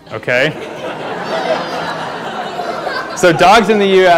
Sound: laughter

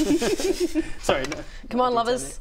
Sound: hopeful giggles

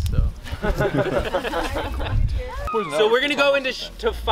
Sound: laughing

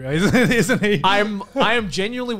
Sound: laughs

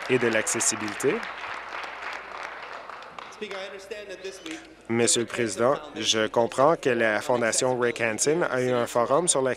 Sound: applause

